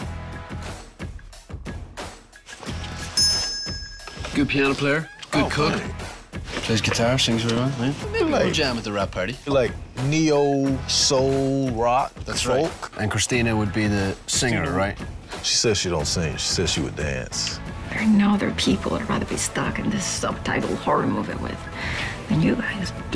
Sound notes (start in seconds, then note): 0.0 rock music; 3.1 dinging